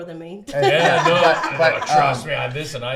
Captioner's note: laughs